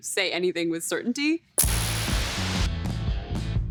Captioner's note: static crackles